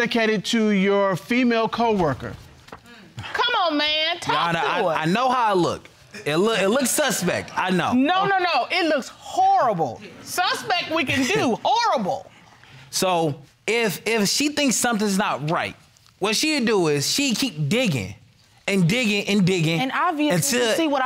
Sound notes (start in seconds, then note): 5.7 stammers